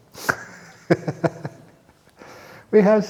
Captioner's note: chuckle